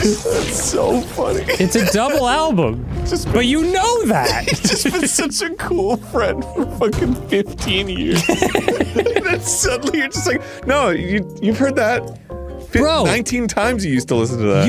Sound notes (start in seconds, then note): 0.9 laughing; 4.6 laughing; 8.1 both laughing